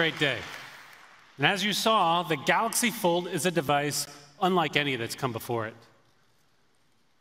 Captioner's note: applause